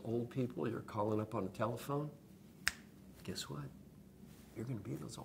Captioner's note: snap sound